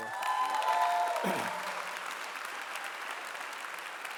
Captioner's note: cheering and clapping